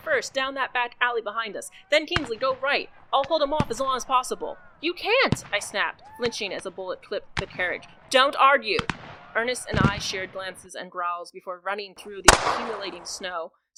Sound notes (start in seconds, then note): 8.8 another bullet ricochet